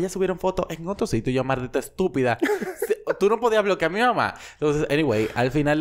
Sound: laughs

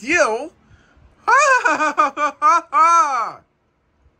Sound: Zip laughs

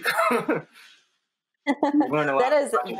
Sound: laughs

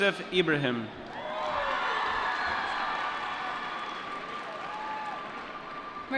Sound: applause

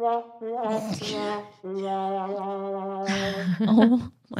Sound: trombone playing; both laugh

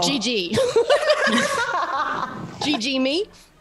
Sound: laugh

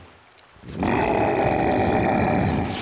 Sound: grunting

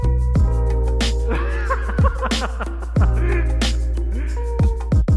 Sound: laughing

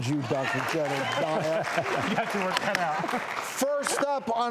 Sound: cheering

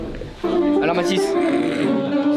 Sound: pretends to snore

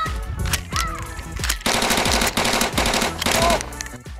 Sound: yells and screams; machine gun sounds

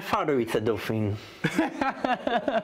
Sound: laughs

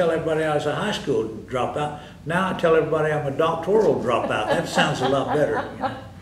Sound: laughter

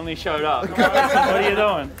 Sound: contestants laughing

